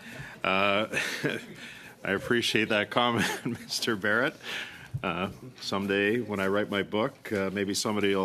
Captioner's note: laughter